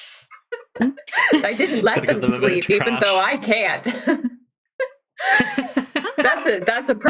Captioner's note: laughing